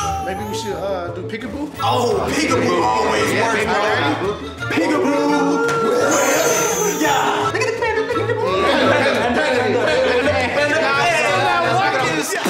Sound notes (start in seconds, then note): 0.0 baby crying; 5.2 baby crying; 8.4 guys all talking; 12.3 guys rapping